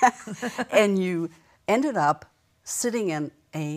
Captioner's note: laughter